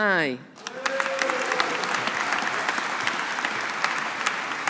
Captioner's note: audience applauding